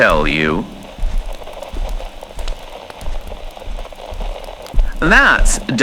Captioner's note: walking on carpet fx